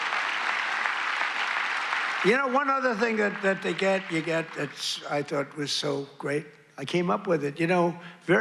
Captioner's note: applause